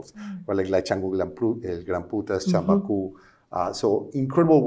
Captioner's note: speaking spanish